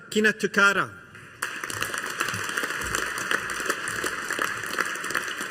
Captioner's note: audience applauding